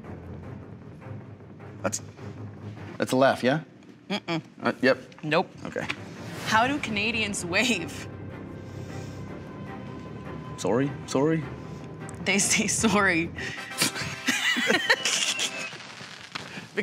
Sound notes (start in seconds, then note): 0.0 suspenseful music; 10.3 mocking Canadian accent; 13.7 triumphant music; 13.8 both laughing